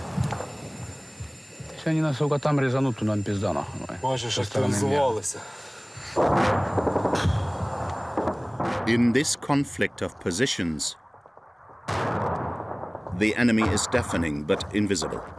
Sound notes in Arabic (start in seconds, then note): 4.1 الصوت المنطوق الأوكراني